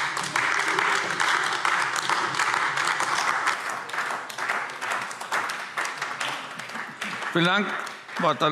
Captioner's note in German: Beifall AfD